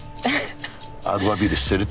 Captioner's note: woman chuckling